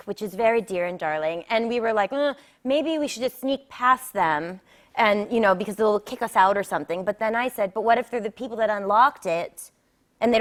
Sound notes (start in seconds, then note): none